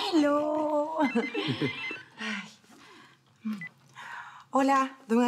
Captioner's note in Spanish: Sigue sonando el celular